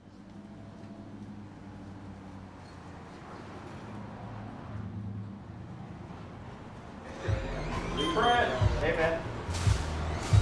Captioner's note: traffic noise